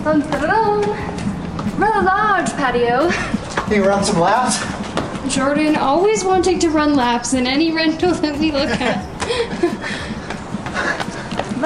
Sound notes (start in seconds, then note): 8.3 laughs